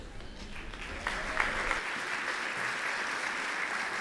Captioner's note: applause